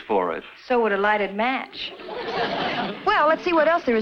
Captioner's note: audience laughs